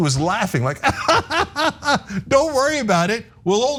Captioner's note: laugh